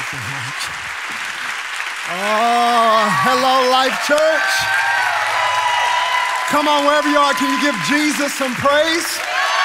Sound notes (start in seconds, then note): 4.7 congregation applauding; 4.7 congregation cheering; 9.4 congregation applauding; 9.4 congregation cheering